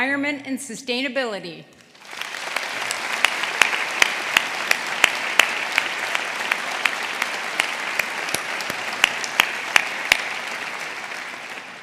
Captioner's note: applause